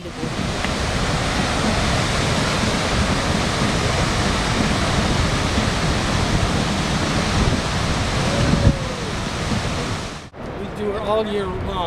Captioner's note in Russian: шум водопада; английская речь